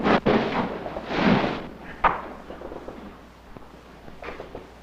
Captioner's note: bombs exploding